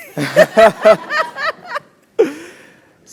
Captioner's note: laugh